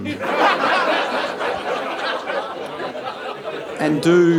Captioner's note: audience laughing